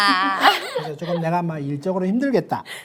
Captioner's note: hehe